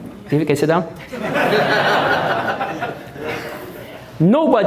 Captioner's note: audience Laughing